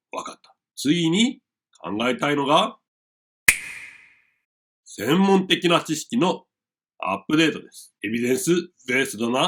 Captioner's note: finger snap